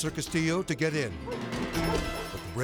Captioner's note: tense music; dog barking